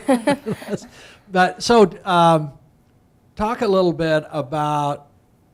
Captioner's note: laughs